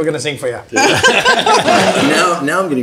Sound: group laughs

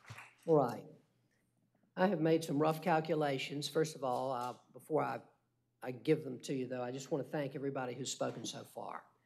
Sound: applause

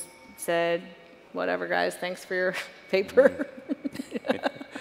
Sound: chuckles

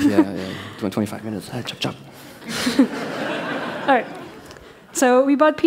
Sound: laughter

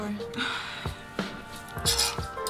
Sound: sigh

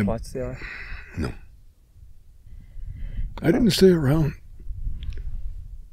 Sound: clears throat

